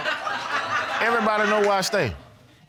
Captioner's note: all laughing